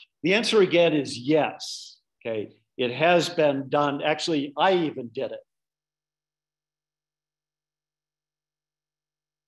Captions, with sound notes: The answer again is yes. It has been done, actually I even did it. (audio cuts out)